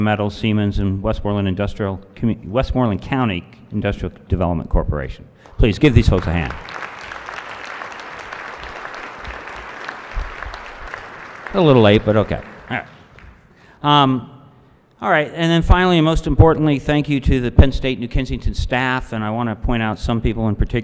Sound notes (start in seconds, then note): 7.3 applause